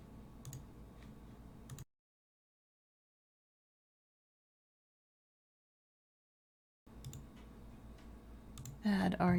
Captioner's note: silence while typing